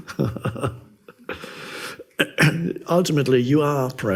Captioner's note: laughs